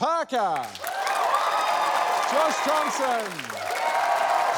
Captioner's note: cheering